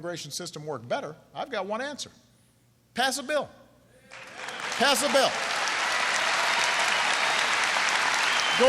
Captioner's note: applause